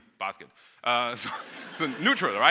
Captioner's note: audience laughing